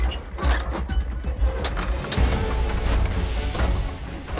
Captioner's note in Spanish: Ruido al abrir puerta